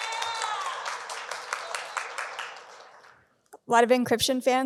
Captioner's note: audience cheering